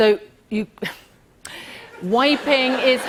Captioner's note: laughter